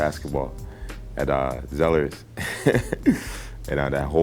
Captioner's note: chuckling